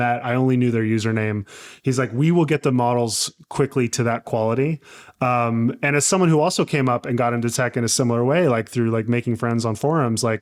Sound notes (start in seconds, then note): none